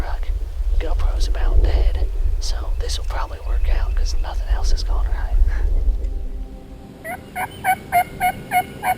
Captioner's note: whispering